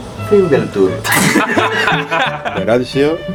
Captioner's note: laughs